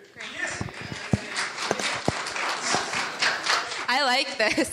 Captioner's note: audience applauding